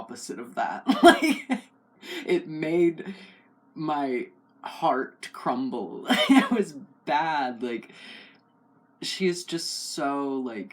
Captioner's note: laugh